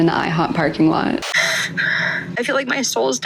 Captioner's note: sobbing